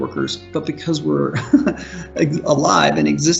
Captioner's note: chuckles